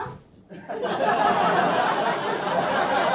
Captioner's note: laughter, despite getting that the wrong way round